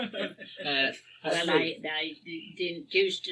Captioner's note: laughs